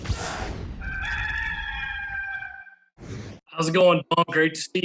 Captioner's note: rooster crows